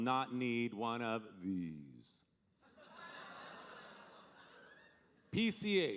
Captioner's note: audience laughing